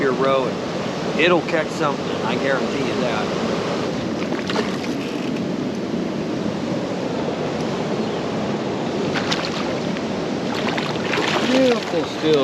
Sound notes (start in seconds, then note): 4.1 water rushing; 10.3 fish splashing